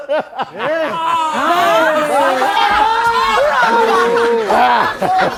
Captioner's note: laughter